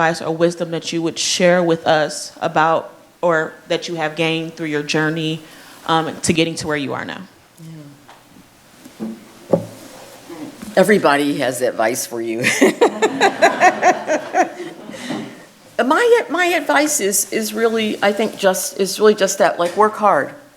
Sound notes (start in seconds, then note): 12.4 laughing